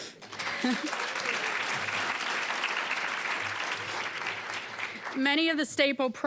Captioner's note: applause